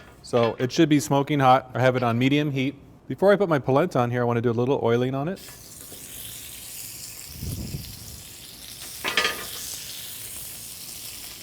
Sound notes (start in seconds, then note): 8.5 sizzling sounds